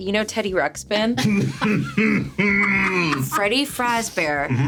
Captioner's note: laughing